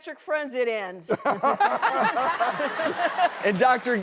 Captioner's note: laughter